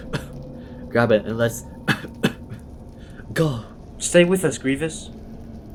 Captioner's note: coughing